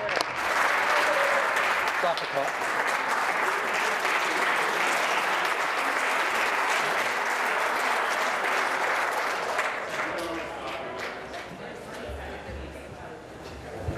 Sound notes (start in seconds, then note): 3.2 applause